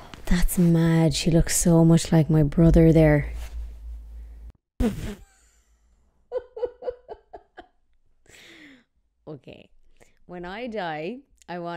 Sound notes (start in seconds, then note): 6.2 chuckling